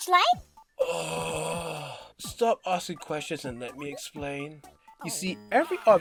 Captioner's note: groans